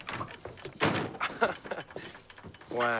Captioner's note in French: rires